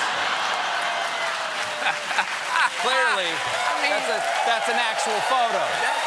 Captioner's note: cheers and applause; laughter